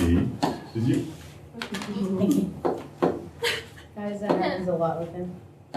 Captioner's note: laughter